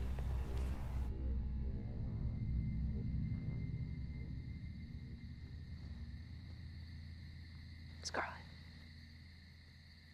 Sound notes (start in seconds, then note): 0.0 eerie music; 3.0 insects chirping